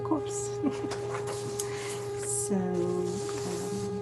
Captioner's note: laughing